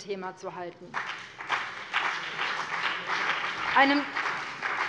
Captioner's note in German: Beifall BÜNDNIS 90/DIE GRÜNEN und vereinzelt CDU